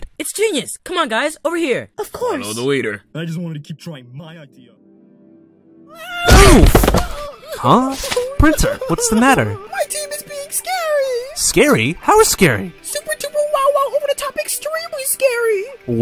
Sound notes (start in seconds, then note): 8.0 printer sobbing